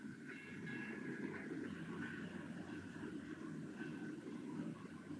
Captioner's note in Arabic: رنين جرس العربة